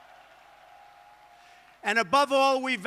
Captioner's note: applause